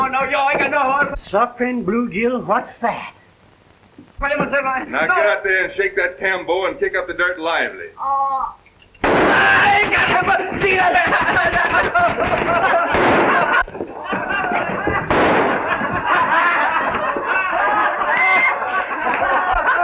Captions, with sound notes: Suffering blue June, what's that? Now get Think and shake that tambo and kick up the dirt lively. - Oh. (gunshot) Ah. (speaking in Spanish) (laughter)